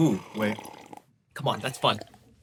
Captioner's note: slurps